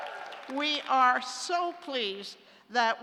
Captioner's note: applause